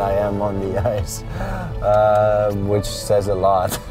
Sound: chuckles

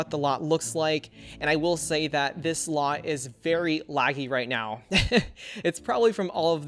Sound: laughs

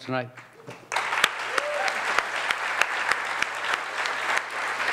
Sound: audience claps

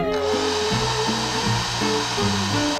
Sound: hairdryer Blowing

